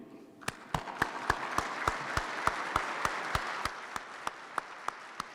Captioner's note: participants clap